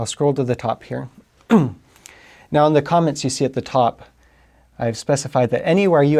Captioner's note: cough